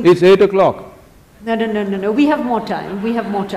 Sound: laughter; 笑聲

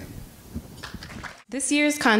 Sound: applause

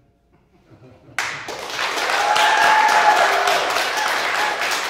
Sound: audience applauding

